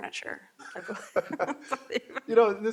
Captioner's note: both laughing